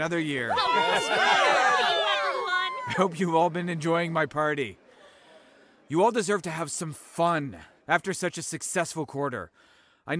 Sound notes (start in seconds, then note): 0.2 cheering